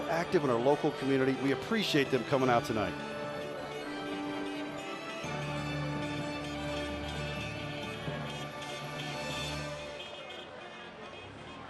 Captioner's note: honking